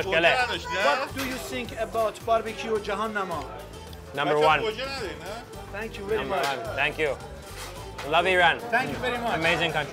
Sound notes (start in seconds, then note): 0.1 men speaking foreign language; 4.3 speaking foreign language